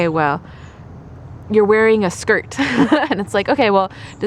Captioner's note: laughter